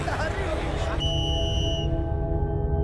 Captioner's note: whistle trills